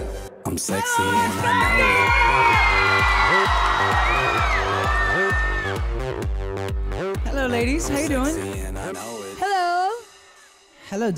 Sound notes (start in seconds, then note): 1.2 audience screams